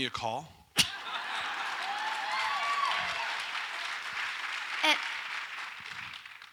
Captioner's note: audience applauds and cheers